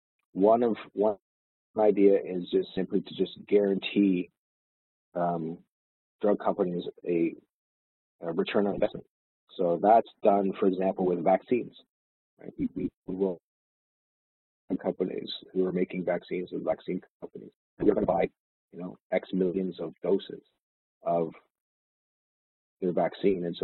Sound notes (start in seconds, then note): 12.4 audio distorts